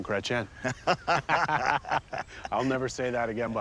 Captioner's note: laughing